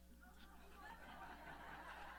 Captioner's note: laughter